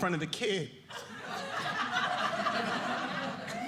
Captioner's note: audience laughing